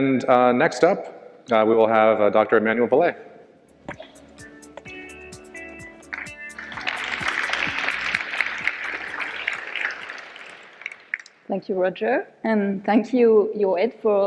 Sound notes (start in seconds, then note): 3.6 upbeat music; 6.0 audience applause